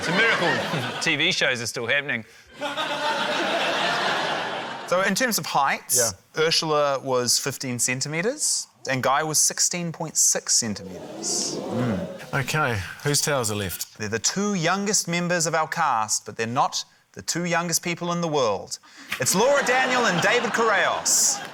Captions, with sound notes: It's a miracle TV shows are still happening. (LAUGHTER) - So, in terms of heights,... - Yeah. - ...Urzila was 15cm, and Guy was 16.6cm. - (AUDIENCE EXCLAIMS) - OK, whose towers are left? - They're the two youngest members of our cast, but they're not the two youngest people in the world. It's Laura Daniel and David Correos.